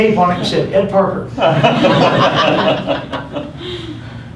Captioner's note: laughter